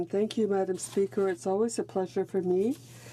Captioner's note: speaking french